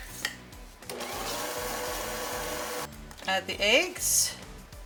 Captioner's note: mixer humming